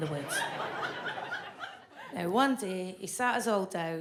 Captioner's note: audience laughs